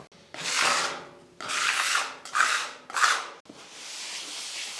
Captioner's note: tool scraping